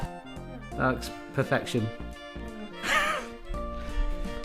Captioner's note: laughs